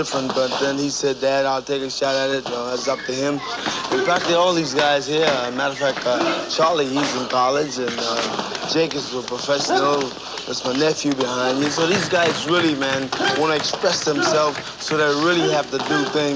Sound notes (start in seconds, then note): 3.5 fists thumping; 9.2 jump rope slapping; 11.1 fists thumping